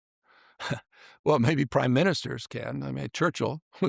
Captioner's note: chuckles